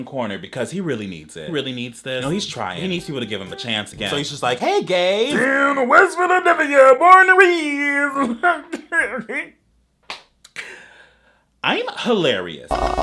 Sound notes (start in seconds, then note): 7.8 laughs